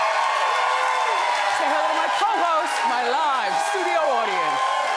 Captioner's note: audience cheering and applauding